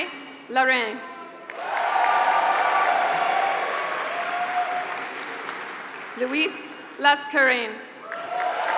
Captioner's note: applause